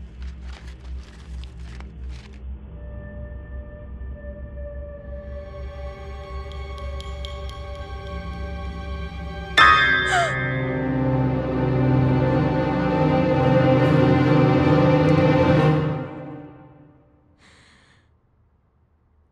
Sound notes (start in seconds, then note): 2.9 ominous music; 5.4 suspenseful music; 9.9 music intensifies; 10.1 gasps